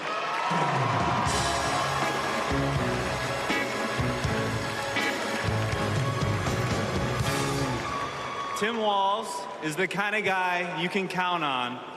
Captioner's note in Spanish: Aplausos